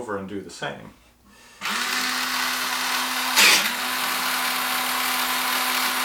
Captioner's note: sharpener noise